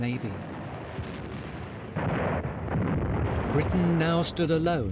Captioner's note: gunfire blasting